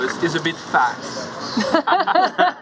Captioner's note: laughter